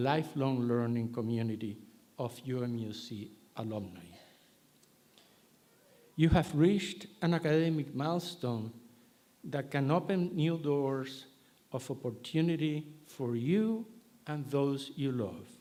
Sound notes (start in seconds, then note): none